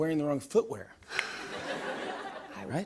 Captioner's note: laughter